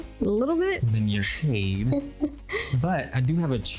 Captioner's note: laughs